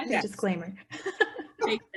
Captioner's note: panel laughing